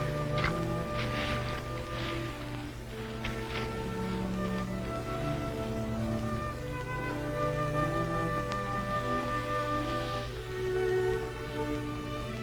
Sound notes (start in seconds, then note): 5.1 sand pouring; 7.2 gentle music